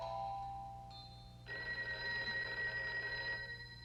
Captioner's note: telephone rings